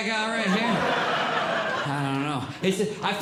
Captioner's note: audience Laughing